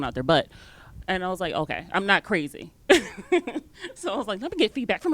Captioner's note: giggles